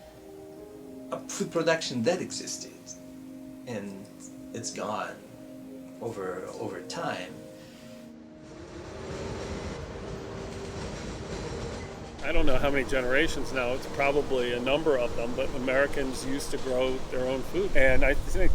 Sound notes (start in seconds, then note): 8.3 subway train